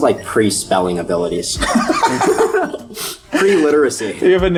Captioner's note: laughter